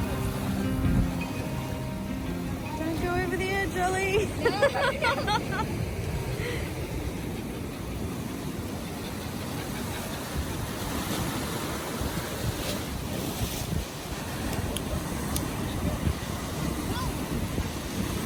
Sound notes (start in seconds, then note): 4.2 laugh nervously; 8.9 Ollie pants; 10.9 waves crash loudly